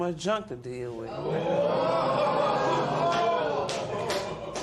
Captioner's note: spectators Ooh